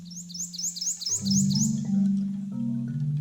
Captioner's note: birds chirping